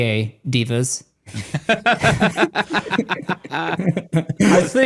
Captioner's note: laughing